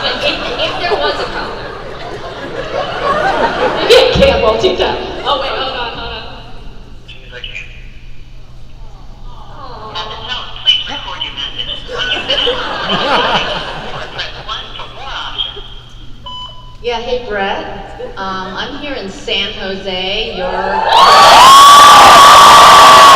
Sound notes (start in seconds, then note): 3.1 Ming-Na laughs; 7.5 answering service on loud speaker; 11.8 crowd laugh; 20.5 crowd screams